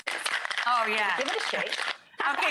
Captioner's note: ice clatters